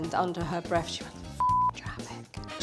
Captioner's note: beep